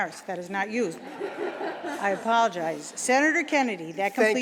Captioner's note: laughter